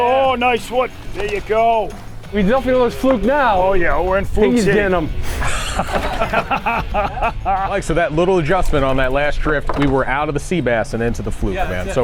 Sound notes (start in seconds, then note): 5.2 laughs